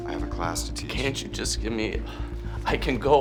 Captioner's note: sighs